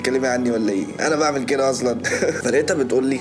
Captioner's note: chuckles